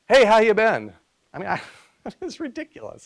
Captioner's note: laughs